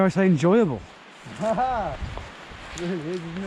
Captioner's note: laughing